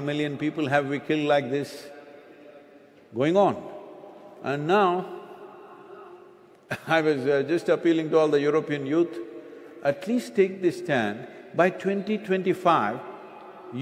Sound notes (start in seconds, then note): 6.6 laughter